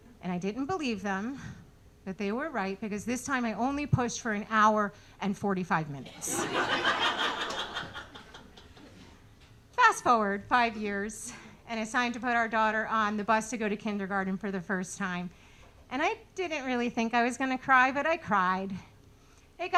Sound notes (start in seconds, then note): 6.2 audience laughing